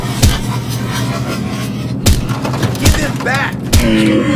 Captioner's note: groaning